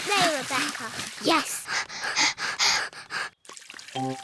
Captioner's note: both panting